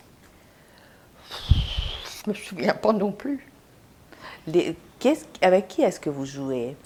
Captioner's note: sighing